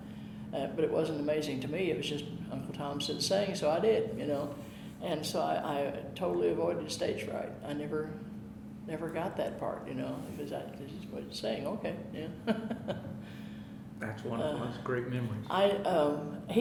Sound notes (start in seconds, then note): 12.4 chuckling